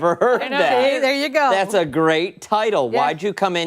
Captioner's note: laughter